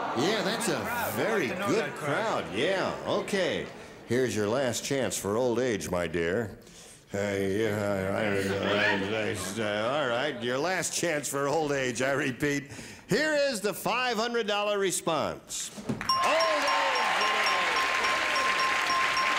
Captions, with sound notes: Yeah, that's a very good crowd. Yeah, okay. Here's your last chance for old age, my dear. (stammering) All right. Your last chance for old age, I repeat. Here is the $500 response. Old age it is.